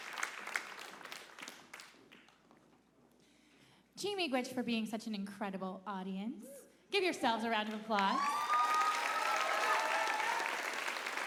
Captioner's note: applause